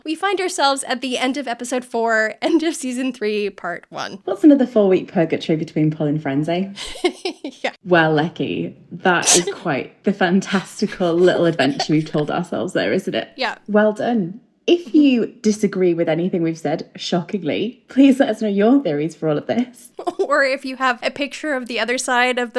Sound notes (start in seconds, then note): 6.8 laughing